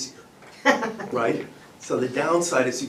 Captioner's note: laughter